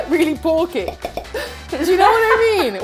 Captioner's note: laughs